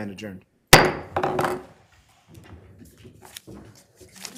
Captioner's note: gavel clacks